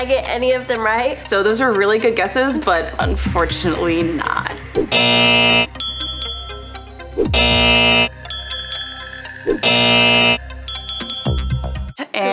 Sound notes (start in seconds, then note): 4.9 buzzer ringing; 5.7 bell clanking; 7.3 buzzer ringing; 8.2 bell clanking; 9.6 buzzer ringing; 10.6 bell clanking